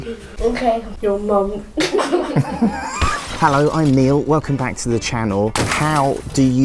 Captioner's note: laughter